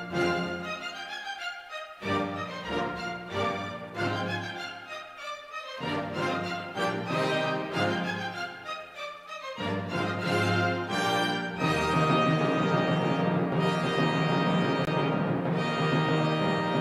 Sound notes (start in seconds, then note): none